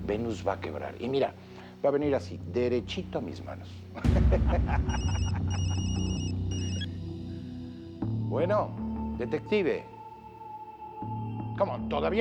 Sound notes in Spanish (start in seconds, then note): 3.9 Risas; 4.9 Suena el celular